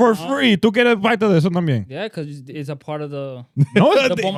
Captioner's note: speaking Foreign Language